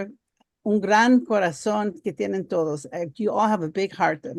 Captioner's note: speaking foreign language